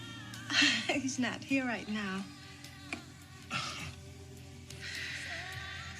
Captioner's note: laughing